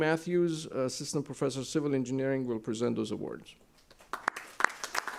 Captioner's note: applause